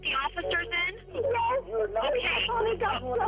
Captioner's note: on phone